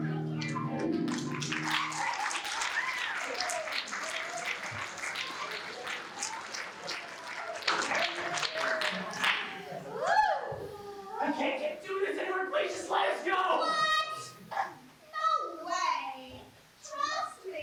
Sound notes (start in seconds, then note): 0.9 applause